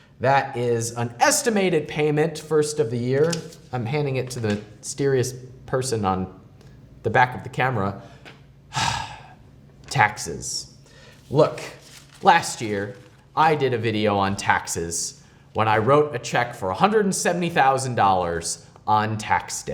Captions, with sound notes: that is an estimated payment, first of the year. I'm handing it to the mysterious person on the back of the camera. (sighs) Taxes. Look, last year I did a video on taxes, when I wrote a check for $170,000 on tax day.